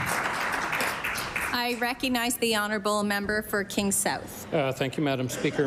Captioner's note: applause